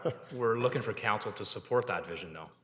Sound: chuckles

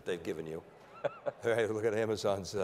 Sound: laughing

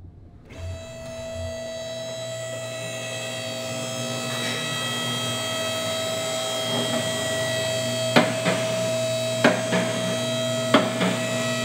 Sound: non-Diegetic Audio: Machinery

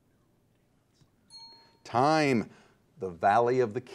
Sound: bell dings

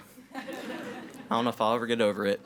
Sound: audience laughs

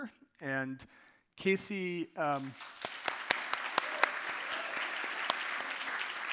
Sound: audience applauding

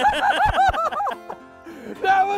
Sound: laughs loudly

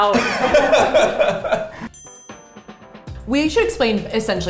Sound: laughs

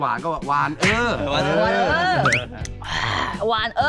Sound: laughing

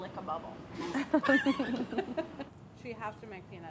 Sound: everyone laughing

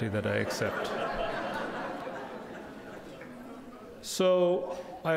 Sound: crowd laughing

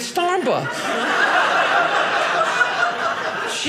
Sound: audience laughing

